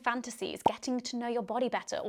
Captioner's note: popping